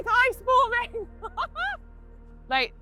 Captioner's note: laughter